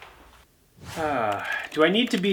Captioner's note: exhales deeply